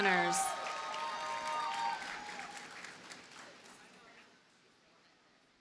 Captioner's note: audience cheers and applauds